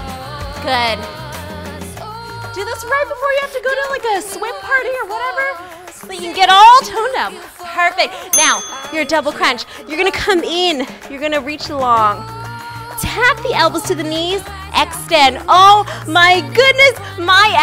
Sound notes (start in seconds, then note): 8.3 timer dings